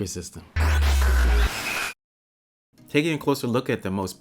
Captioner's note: digital sounds